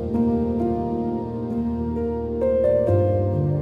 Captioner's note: swirling glass